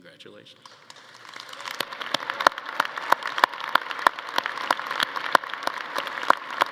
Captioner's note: attendees applauding and cheering